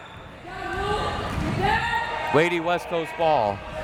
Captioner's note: crowd members shouting